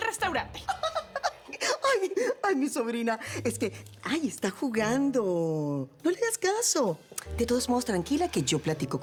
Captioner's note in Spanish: Riendo